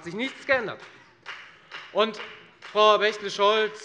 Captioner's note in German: Beifall bei der FDP